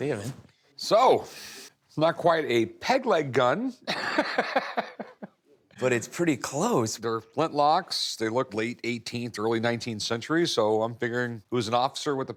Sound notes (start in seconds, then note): 3.9 laughs